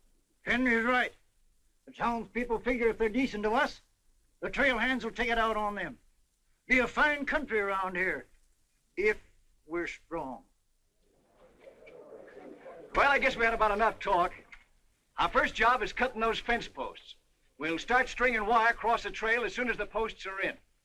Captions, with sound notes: Henry's right, the townspeople figure if they're decent to us, the trail hands will take it out on them. It'll be a fine country round here... if we're strong. [ CROWD MUTTERING ] Well, I guess we've had enough talk. Our first job is cutting those fencepost's. We'll start stringing wire across the trail when they're in.